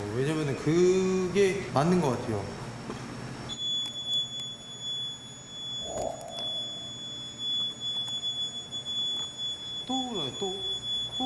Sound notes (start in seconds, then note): 3.5 beeping